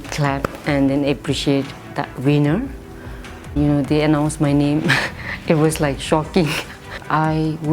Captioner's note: laughs